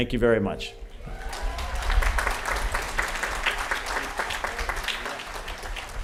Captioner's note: applause